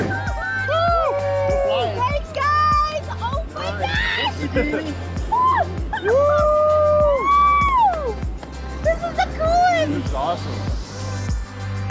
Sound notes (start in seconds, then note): 3.3 cheering